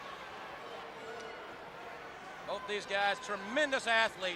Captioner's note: crowd chatter